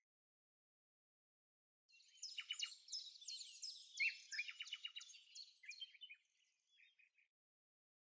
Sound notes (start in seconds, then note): 2.2 birds chirping